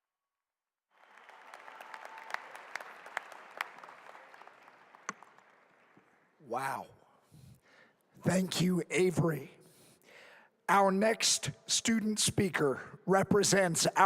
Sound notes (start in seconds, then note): 0.9 applause